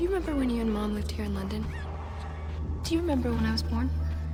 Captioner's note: none